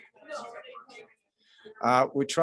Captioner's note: woman chattering